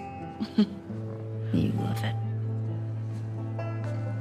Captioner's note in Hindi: हंसती है